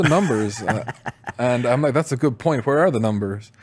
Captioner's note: laughs